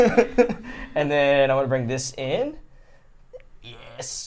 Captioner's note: laughs